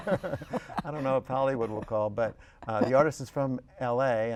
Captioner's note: laughter